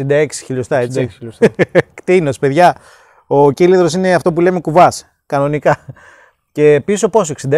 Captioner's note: laugh